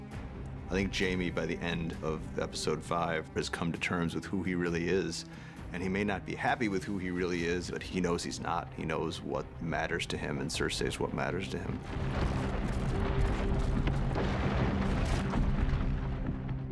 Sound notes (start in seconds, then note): 11.6 debris falling; 11.7 walls crumbling